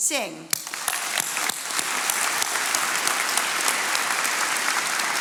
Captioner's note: attendees applauding